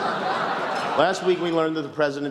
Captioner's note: laughter